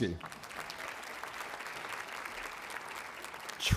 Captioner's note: applause